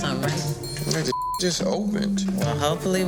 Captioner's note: beep